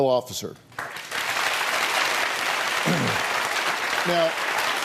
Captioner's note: audience applauding